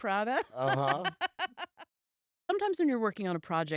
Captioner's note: laughs